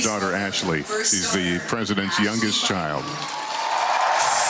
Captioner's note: applause